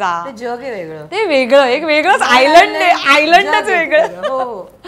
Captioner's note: Chuckles